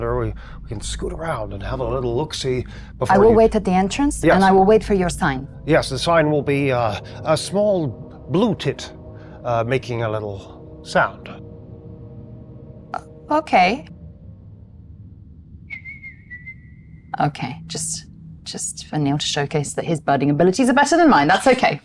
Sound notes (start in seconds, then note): 15.7 whistling